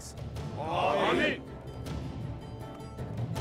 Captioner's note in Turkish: Hep bir ağızdan